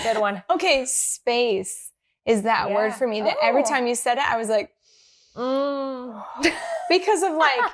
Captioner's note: breathes in and out